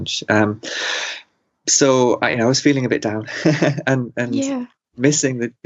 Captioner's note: laughs